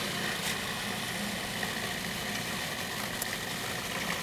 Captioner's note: motor running